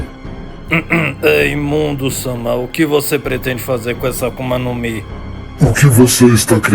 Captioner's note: cough